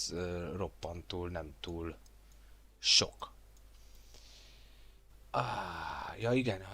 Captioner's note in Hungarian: sóhajtás